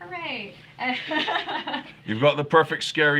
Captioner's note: laughing